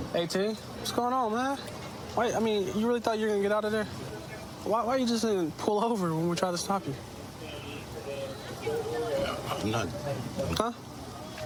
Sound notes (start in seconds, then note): none